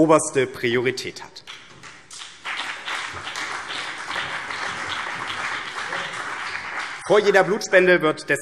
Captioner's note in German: Beifall BÜNDNIS 90/DIE GRÜNEN, CDU und vereinzelt Freie Demokraten